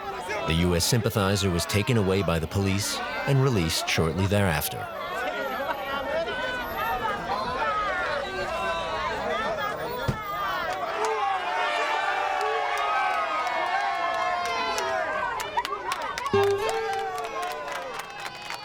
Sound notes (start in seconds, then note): 4.8 lively chatter; 11.8 cheering; 16.7 applause